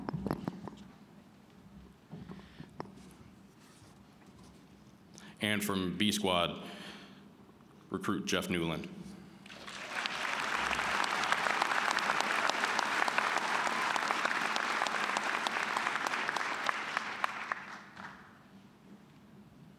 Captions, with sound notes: And from B Squad, Recruit Jeff Newland. (applause)